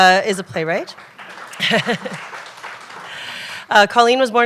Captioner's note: applause; laughter